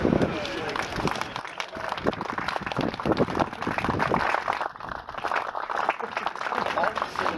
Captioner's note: applause